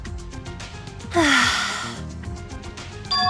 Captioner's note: sigh